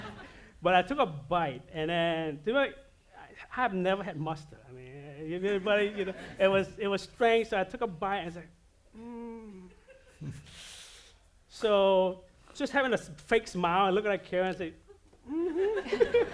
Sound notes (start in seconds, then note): 9.3 makes unsure noise